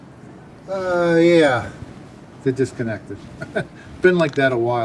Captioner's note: laughs